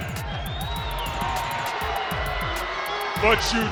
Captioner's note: audience shouts and boos